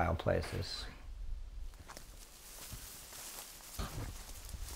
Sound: rustling bushes

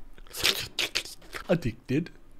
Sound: tongue sounds

